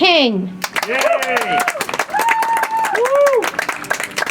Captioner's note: audience applauds